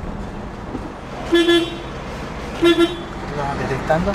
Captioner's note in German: Hupen